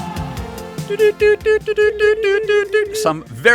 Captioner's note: morse Code noises